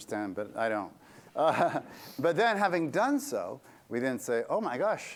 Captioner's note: laughter